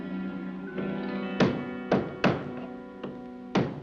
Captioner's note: hammering